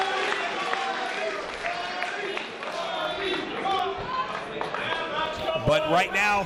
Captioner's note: applause